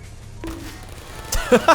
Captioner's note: bonk